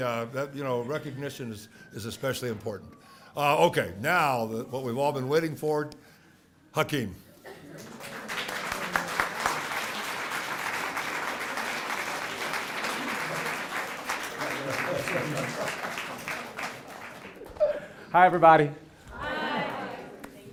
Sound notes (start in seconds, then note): 7.7 applause